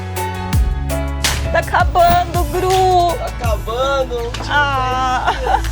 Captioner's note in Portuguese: risadas